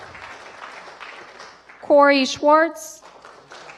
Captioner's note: applause